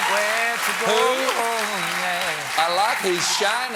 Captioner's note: cheers and applause